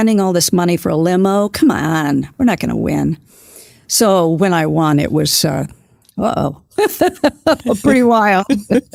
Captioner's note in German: lacht